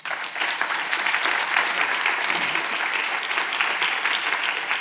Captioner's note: audience applauding